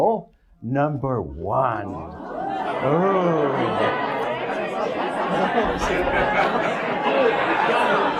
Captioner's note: croud chatting